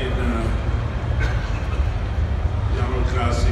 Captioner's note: coughs